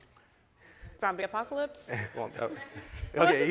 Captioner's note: all laughing